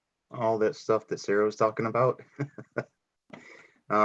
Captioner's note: laughs